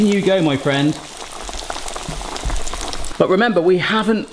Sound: chicken frying

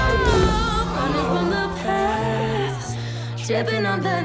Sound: audience gasps

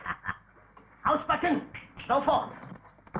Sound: German language

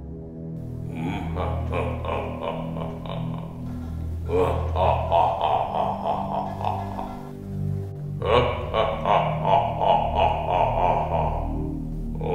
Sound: deep Laughter

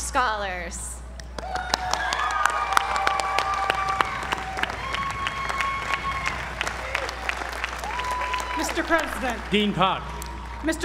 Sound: applause

